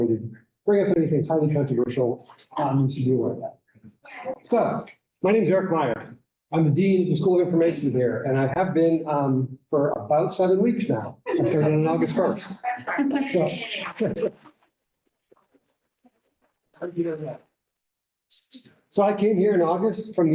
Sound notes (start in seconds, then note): 13.6 chuckles